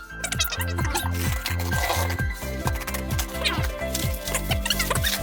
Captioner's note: packaging crackling